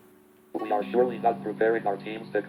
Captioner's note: computer Voice